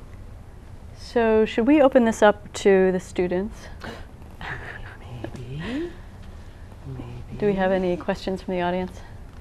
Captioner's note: quiet laugh